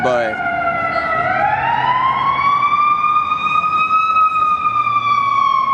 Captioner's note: siren wailing loudly